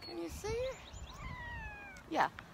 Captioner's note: cat meows